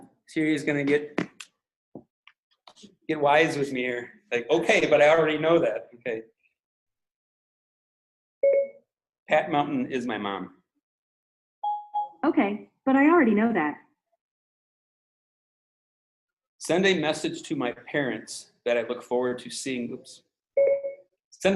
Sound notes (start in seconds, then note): 8.4 phone beeping; 11.6 phone beeping; 20.6 phone beeping